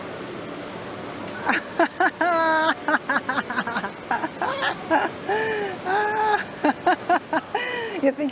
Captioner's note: laughs